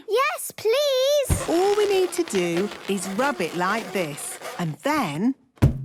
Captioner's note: balloon rubbing; balloon echoes